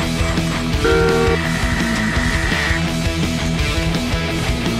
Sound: car horn blowing

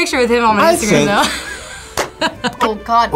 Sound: laughs

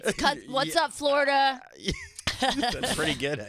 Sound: laughing

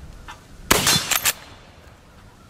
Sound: gun fires

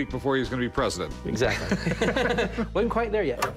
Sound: chuckles

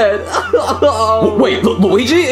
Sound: Luigi sobbing

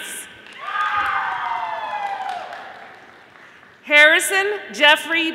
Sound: audience applauding

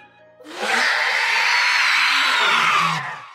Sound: Couatling Screeches

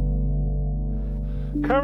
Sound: heavy breathing

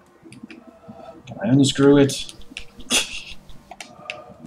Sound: laughs softly

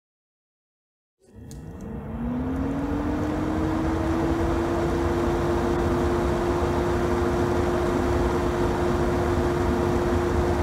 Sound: sound of fan

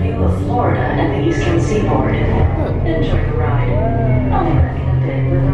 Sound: bustling restaurant ambience

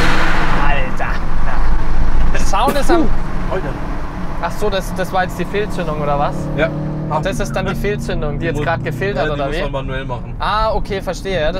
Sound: sneezes

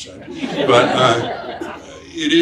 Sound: audience laughs

